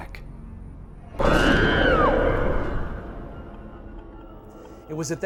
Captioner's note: woman screaming